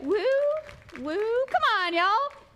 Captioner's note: applause